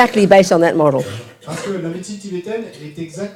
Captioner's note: audience member speaks in French